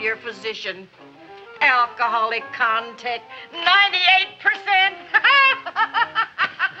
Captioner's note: laughs